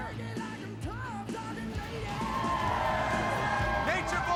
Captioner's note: crowd cheering